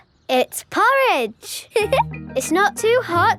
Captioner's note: giggles